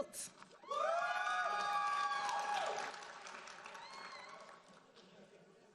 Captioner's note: audience cheering and applauding